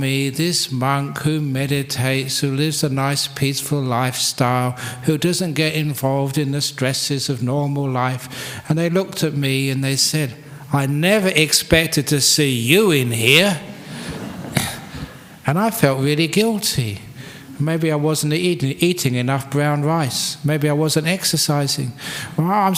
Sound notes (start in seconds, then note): 13.8 laughter